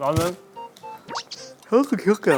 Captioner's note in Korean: 하아품